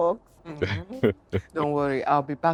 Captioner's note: laughs